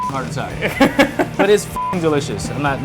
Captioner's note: laughing